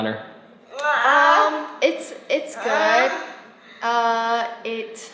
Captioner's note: vocalizing